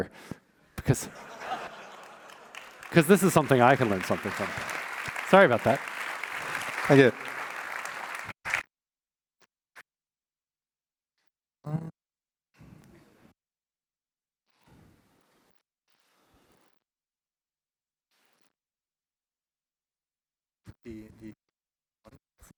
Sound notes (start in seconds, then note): 7.5 laughter; 8.2 applause